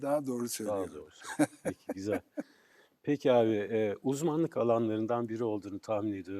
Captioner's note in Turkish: kahkaha